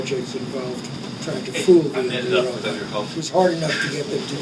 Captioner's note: chuckles